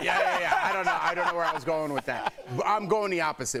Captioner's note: laughter